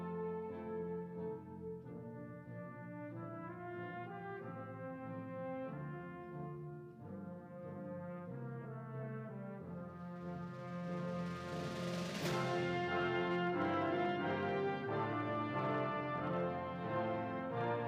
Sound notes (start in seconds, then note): none